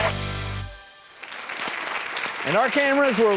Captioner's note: applause